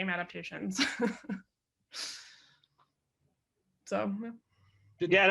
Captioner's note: laughing